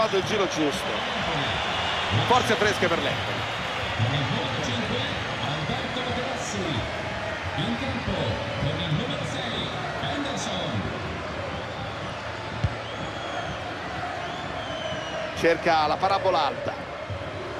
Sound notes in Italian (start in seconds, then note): 10.9 Applauso; 15.9 Applauso